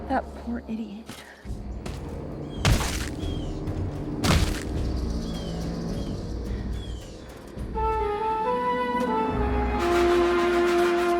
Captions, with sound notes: - That poor idiot... (blows thud) (hypnotic flute music)